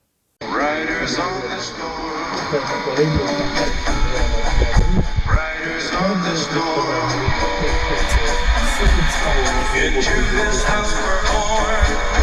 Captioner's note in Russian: играет радиоприемник